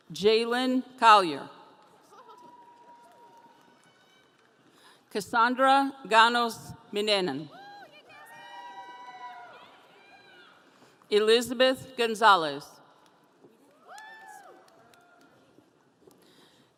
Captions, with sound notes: Jaylen Collier. Cassandra Ganos-Menen. (audience cheering) Elizabeth Gonzalez. (audience cheering)